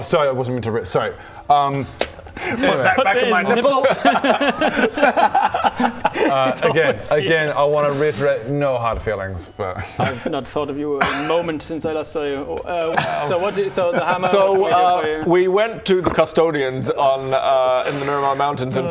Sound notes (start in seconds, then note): 4.9 fooling-nobody laughter